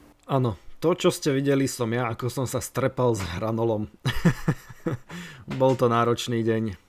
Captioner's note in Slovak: smiech